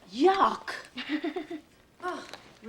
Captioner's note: laughs